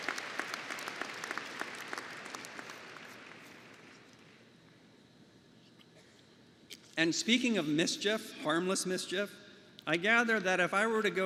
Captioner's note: applause